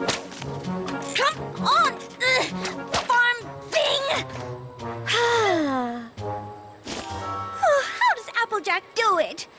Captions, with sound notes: Come... On... farm thing! (sigh) How does Applejack do it?